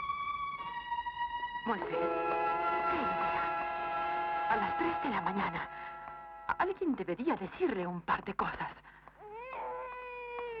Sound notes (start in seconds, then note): 5.7 baby Crying